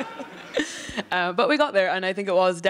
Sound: laughter

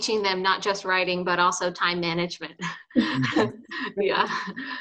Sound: chuckles

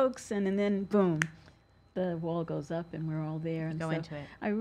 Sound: snaps fingers

